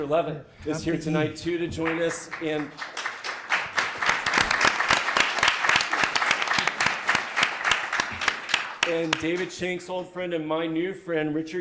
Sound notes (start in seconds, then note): 1.6 audience claps